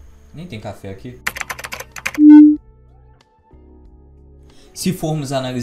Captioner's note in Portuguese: Sons de digitação; Som de transformação